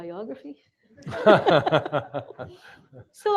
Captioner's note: laughter